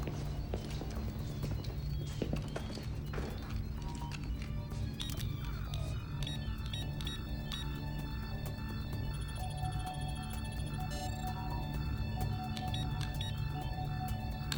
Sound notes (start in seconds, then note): 4.7 device beeps